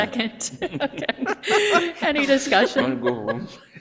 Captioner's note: all laughing